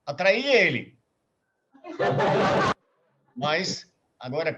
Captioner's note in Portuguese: risos